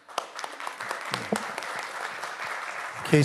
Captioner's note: audience Applauding